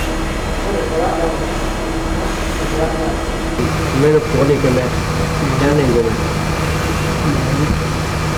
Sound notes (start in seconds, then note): 0.6 indistinct chatter; 5.1 speaking in Mandarin